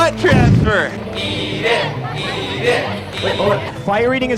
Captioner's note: crowd